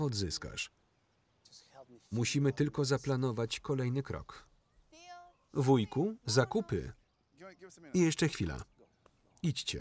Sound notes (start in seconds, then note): 6.7 speaking foreign language